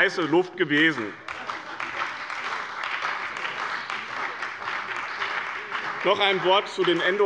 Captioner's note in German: Beifall bei dem BÜNDNIS 90/DIE GRÜNEN und der CDU